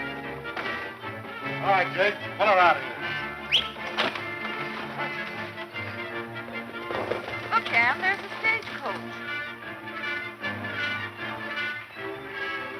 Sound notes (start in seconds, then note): 3.3 whistling; 9.9 dramatic music